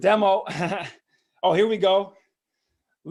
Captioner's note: laughs